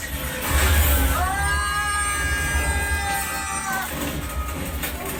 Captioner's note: C-3PO and R2-D2 screaming